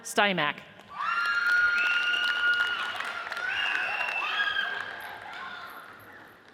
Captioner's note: audience cheers and applauds